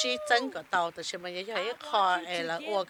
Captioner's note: cheers and applause